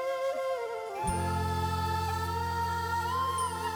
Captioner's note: emotive vocalisation